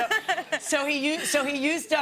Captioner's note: laughs